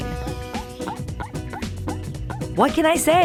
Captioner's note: Pam chirping